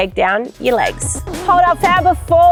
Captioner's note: record scratching